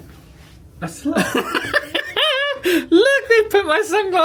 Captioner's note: laughing